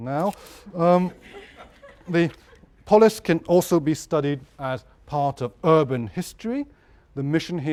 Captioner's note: laugh